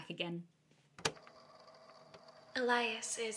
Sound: cassette recorder clicks, machine whirs continuously

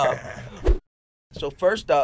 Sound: swooshing

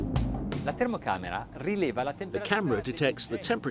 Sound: speaking in a foreign language

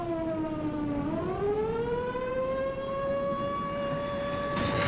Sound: alarms blaring

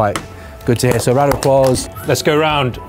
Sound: clapping

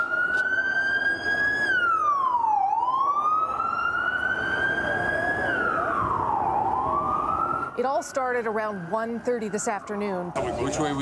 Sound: sirens

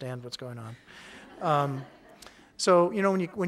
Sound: audience laughing

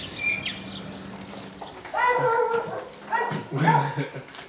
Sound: dog barking

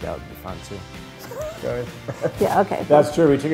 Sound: laughing

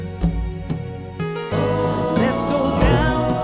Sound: ooooohhh; humm

